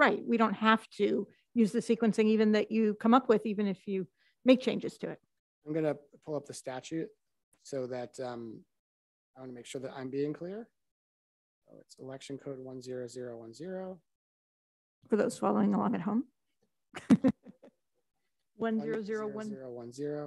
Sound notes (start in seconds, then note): 17.0 laughs